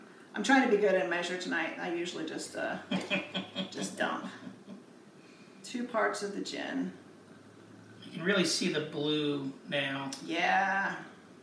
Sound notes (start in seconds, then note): 2.8 chuckles